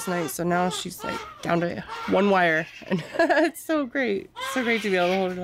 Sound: laughs

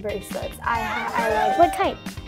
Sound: audience cheering

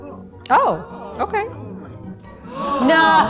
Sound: upbeat music; crowd murmuring; crowd gasping

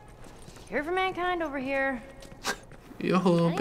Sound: scoffs

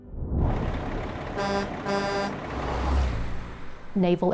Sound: truck horn

